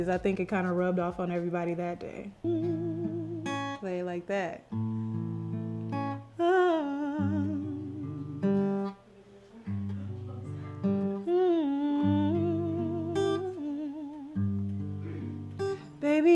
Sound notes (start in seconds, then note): 2.4 humming; 2.8 guitar strumming; 6.6 sings; 11.2 hums